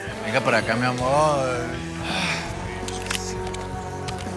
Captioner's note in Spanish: Gruñe